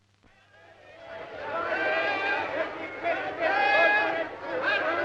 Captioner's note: group shouting